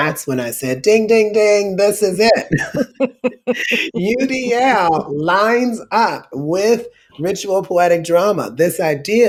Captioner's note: laughter